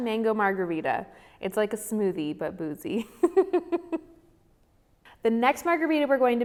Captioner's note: giggles